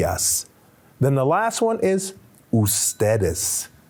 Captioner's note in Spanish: Señor hablando en idioma extranjero